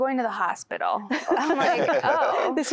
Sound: laughter

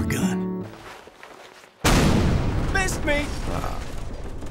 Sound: explosion

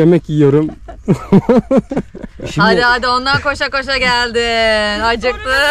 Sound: laugh

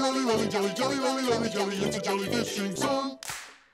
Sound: clap

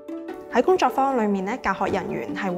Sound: Cantonese

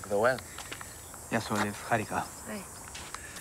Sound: speaking in Greek

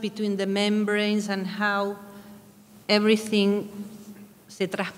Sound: speaking in a foreign language

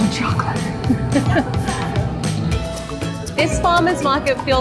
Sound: laughs

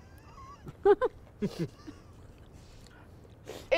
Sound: laughing

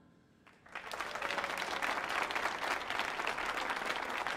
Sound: audience applauding

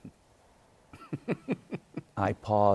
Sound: chuckles

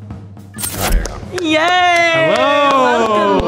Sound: clapping

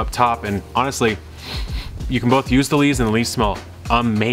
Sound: sniffs

